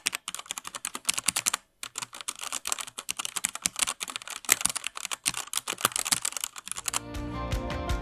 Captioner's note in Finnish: nopeaa näpyttelyä